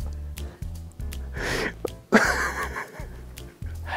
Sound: sobbing

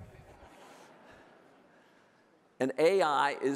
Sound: audience laughing

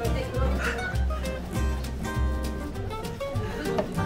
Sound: gulp gulp

